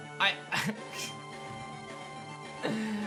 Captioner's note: chuckles